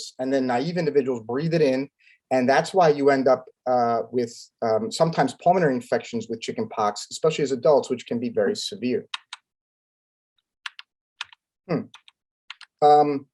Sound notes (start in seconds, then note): 9.3 keyboard clanking